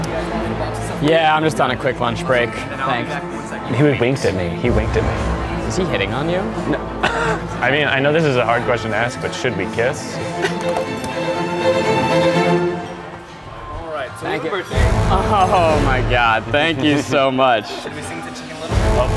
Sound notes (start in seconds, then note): 6.6 laughs; 10.2 laughs; 11.0 intense music